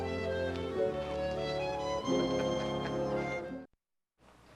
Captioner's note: chuckles